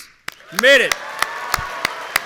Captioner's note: audience cheering